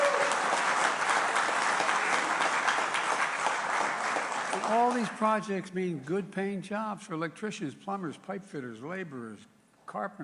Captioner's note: applause